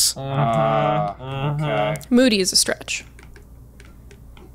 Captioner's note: deep thinking noises